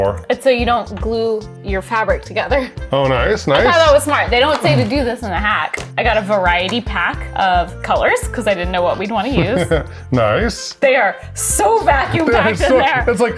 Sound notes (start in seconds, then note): 9.3 chuckles